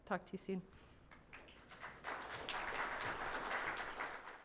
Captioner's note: audience applauding